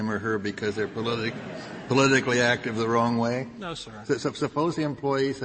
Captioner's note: laughter